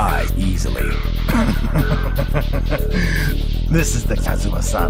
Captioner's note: laughing